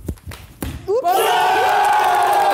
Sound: Harry stomps; all cheering

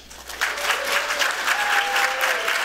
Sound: applause

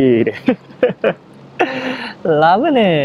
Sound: chuckles

